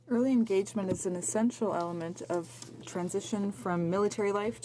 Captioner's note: speaking in french